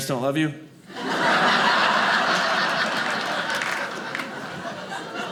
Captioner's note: audience laughing